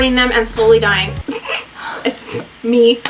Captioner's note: laughs